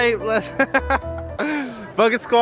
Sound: laughs

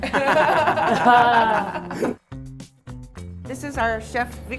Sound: laughing

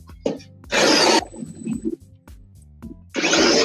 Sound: drilling

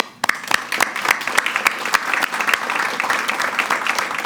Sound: applause

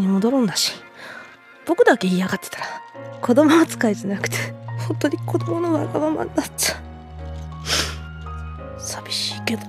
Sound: sniffs

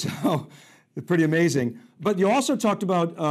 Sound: chuckling

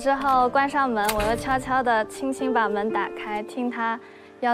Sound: Sample 4: The sound of the door closing

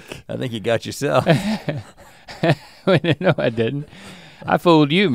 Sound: chuckles

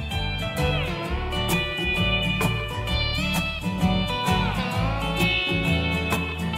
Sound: airplane noises

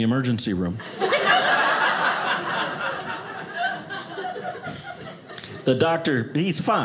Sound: audience laughing

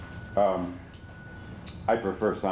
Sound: none

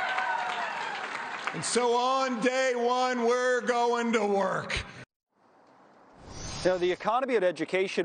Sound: cheers and applause

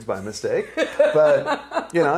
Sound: laughing

